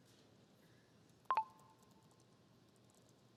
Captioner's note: computer chirps